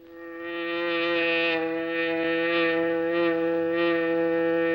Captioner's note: hornet buzzing